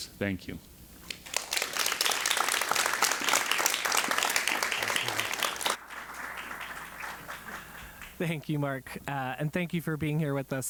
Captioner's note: applause